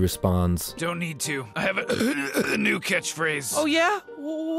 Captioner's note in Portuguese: arrotos